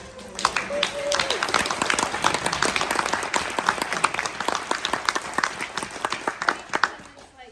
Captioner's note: audience applause